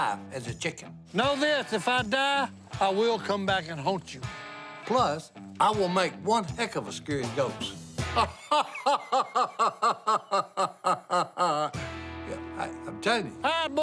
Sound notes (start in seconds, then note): 8.0 laughs